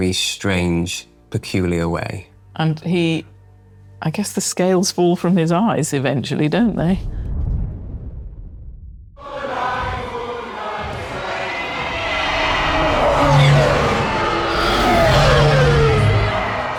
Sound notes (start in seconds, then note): 9.1 people singing; 11.5 planes approaching